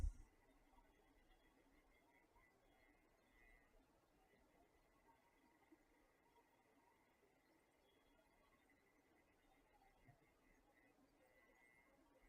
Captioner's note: silence